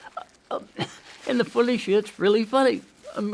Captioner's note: tissue crinkling; laughs